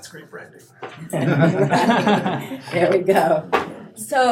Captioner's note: group laughing